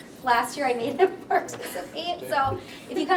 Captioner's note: laughs